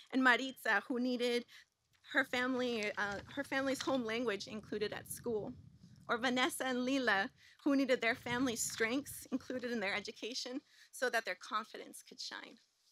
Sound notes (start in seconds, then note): none